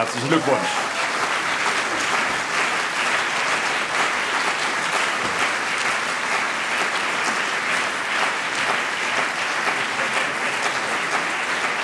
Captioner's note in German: Beifall CDU und BÜNDNIS 90/DIE GRÜNEN